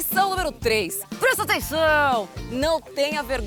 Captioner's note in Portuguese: grita